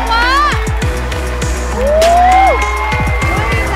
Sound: applause

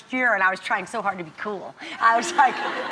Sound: crowd laughs

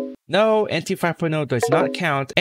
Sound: MSN Messenger New Message sound

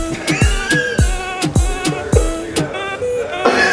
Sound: chuckles

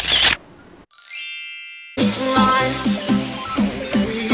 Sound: camera click; chime

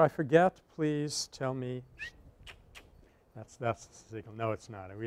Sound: whistles, clicks tongue

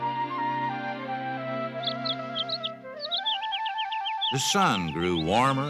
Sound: chirping

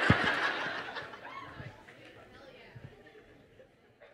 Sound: crowd laughs; crowd murmuring

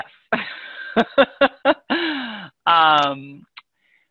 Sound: laughing

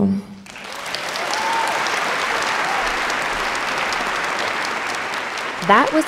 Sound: audience clapping and cheering

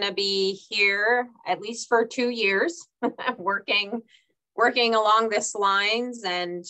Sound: chuckles

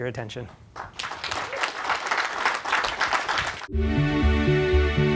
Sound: applause

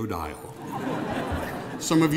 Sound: laughing

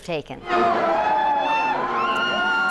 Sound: cheers

